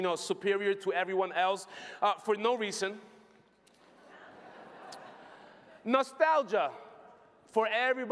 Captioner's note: laughter